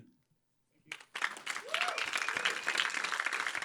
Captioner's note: applause